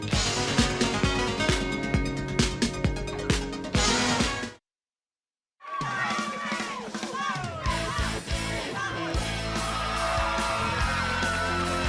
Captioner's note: crowd cheering